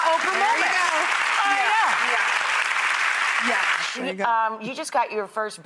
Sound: audience clapping

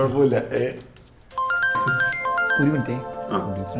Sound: mobile ringing

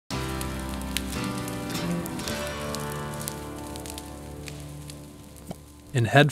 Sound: acoustic music; fire crackling

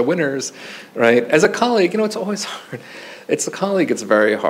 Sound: chuckles

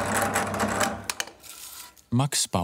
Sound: machine noise stops

